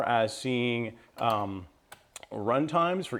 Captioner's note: clicking